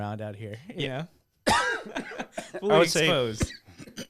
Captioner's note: laughing